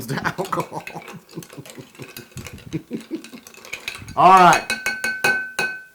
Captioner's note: laugh